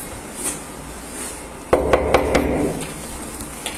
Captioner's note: knocking